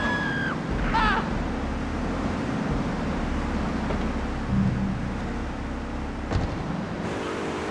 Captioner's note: screaming; sirens wailing